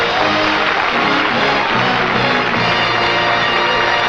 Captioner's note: applause